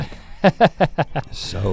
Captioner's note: Link laughing